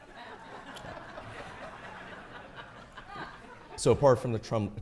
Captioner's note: audience laughing